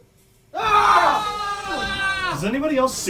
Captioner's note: group screaming